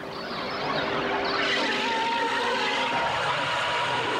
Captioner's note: screaming